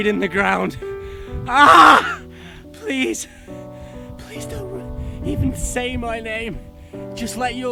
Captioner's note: screams